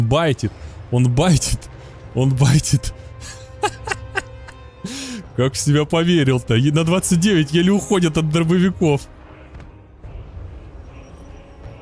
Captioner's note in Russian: смех